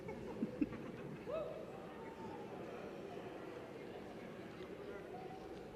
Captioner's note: laughter and whoops